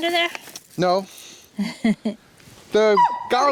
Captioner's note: woman chuckles